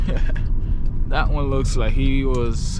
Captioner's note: car engine roaring